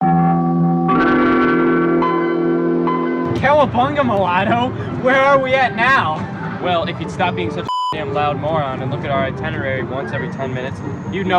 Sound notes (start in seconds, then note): 0.2 suspenseful chiming; 7.6 beeping